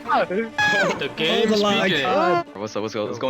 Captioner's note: yelling